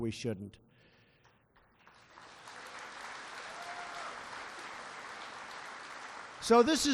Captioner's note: applause